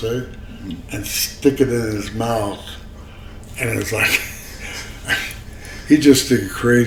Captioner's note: laughs